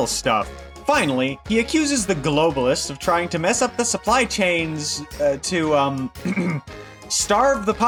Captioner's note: ahem